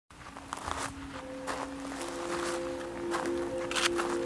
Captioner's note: footsteps